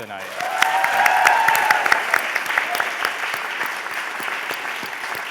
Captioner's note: applause, cheering